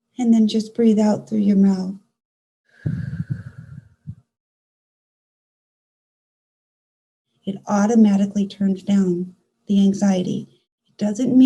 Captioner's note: exhale